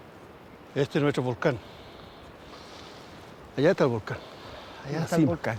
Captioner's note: speaking in foreign language